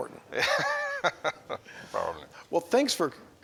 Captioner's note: laughs